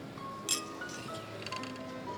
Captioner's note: glasses clink